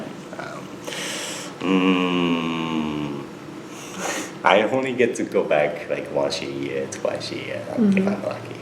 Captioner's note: laughs